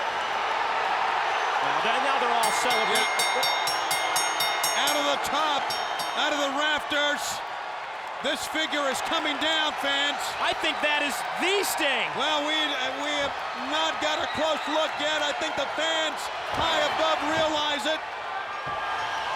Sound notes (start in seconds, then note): 0.2 audience cheers; 2.4 bell rings